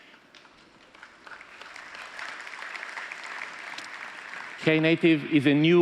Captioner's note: applause